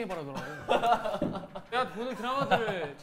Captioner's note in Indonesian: Hahahahahaha